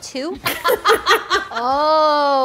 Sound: group laughing

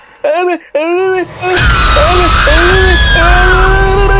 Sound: shouting; stammering by Fear

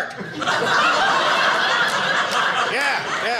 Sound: audience laughing

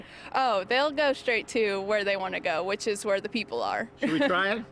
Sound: laughs

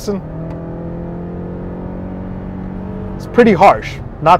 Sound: engine revving

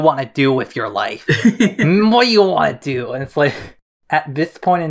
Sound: laughs

